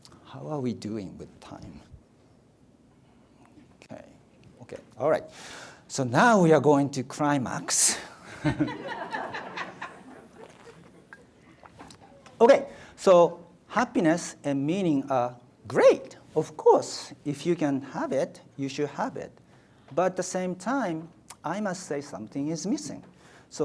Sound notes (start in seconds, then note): 8.3 audience laughs